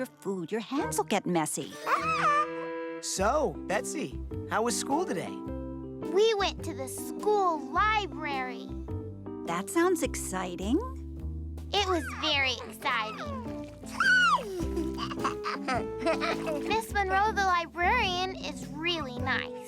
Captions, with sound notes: with your food. Ah! So, Betsy, how was school today? We went to the school library. That sounds exciting. It was very exciting. [laughing] Miss Monroe, the librarian, is really nice.